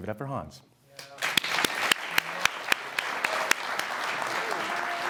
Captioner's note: audience clapping